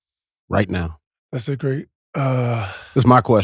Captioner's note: Maverick sighs